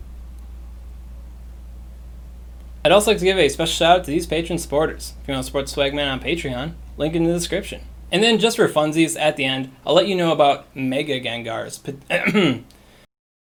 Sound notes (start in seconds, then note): 12.1 choking Noises